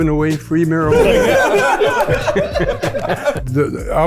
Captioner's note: group laughs